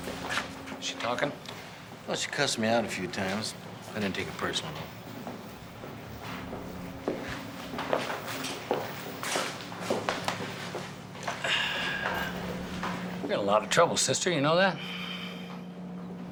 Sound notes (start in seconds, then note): 11.3 sighs